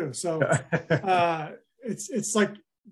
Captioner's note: laughing